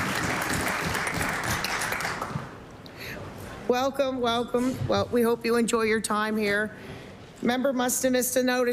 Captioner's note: applause